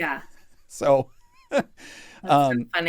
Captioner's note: laughs